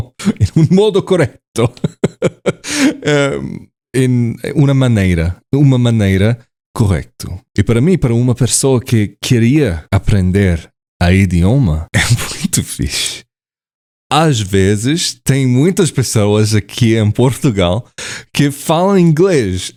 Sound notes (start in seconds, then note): 1.8 in Italian; 5.7 in Portuguese